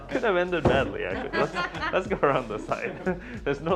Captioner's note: laughing